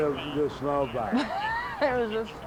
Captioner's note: laughter